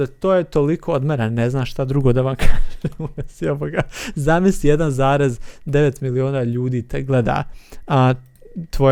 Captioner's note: laughs